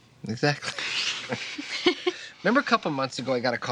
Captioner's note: both laugh